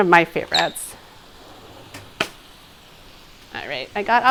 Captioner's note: avocado dropping into trash can